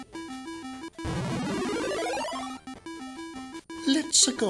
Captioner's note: enemy defeated sound